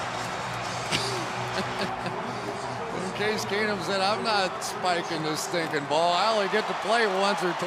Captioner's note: laughs